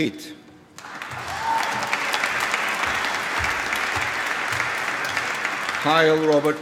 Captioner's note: applause